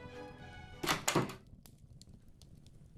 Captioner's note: sound of door opening